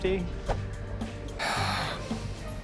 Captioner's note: sighs; tense music plays